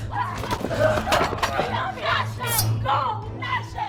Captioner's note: screaming in the background